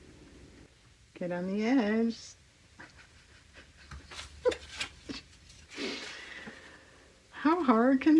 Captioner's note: laughs